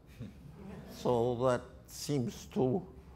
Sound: audience laughter

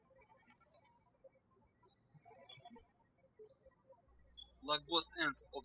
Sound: birds chirping

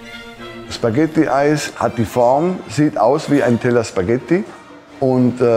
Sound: speaking in foreign language

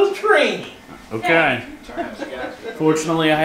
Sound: laughing

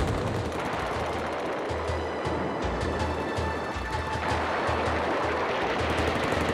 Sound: guns firing; suspenseful music

